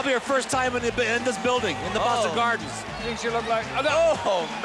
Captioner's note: crowd booing